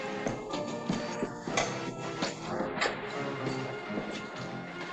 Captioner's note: evocative music; in spanish